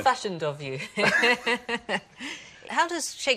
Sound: laughs

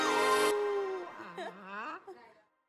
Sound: howls, whimpers

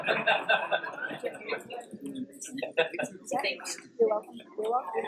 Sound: laugh

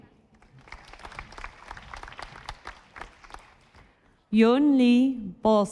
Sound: audience applauding

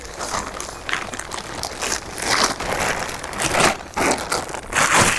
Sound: tent crackling

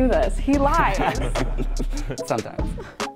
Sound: laughs

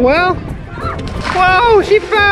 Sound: child screams

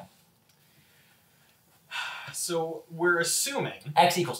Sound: sigh

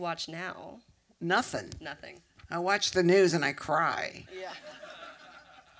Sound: laughter

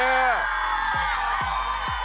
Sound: cheering

